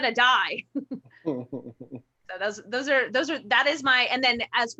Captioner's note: chuckles